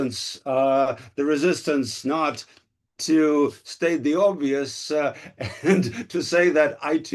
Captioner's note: laughs